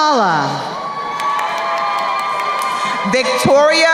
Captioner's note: crowd cheering